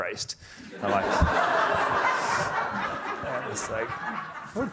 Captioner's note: audience laughing